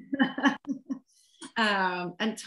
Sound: laughter

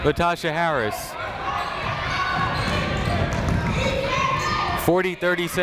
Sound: people shouting in the crowd

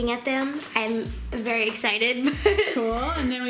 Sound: laughing

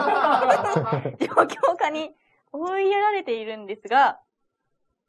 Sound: laughs

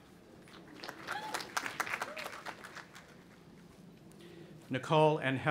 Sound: audience applauding and cheering

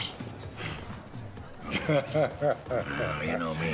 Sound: laughing

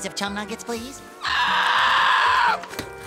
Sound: screeching

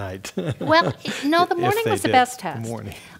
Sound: laugh

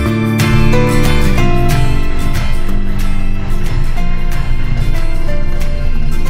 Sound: airplane engine start

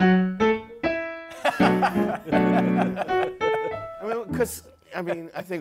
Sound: laughter

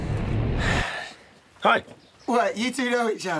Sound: sighs

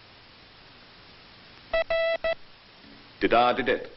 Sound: letter being sent by morse code

